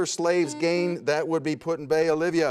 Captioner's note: buzzer sounds